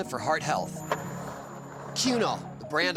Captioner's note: skateboard wheels roaring